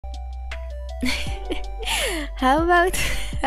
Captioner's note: chuckle